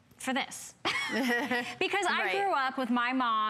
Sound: laughter

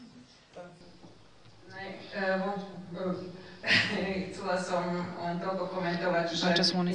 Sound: non-english

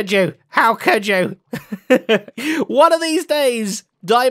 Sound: laughs

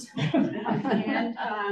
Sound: audience chuckles

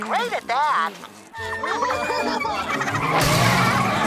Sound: laughing; screaming

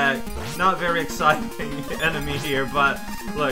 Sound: laughing

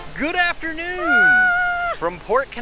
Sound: screams

